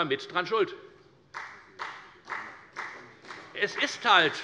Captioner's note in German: Beifall bei der FDP